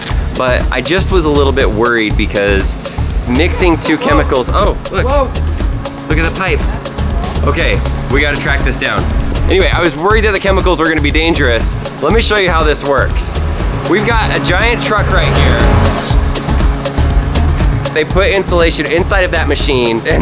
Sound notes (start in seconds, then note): 16.0 funky music; 16.0 machinery whirring